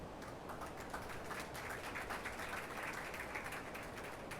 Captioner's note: attendees applauding